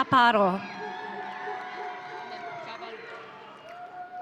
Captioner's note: audience cheering